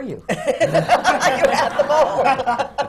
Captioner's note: laughter